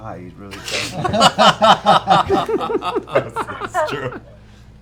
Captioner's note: laughter